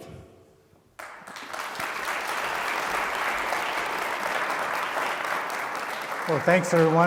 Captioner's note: applause